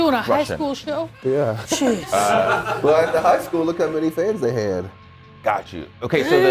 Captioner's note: laugh